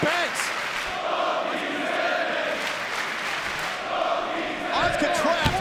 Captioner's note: crowd chants indistinctly